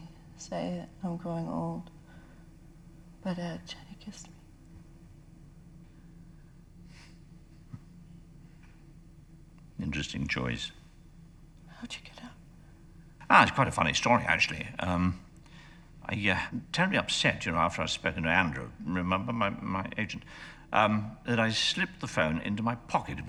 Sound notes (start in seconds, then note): 7.2 chuckling softly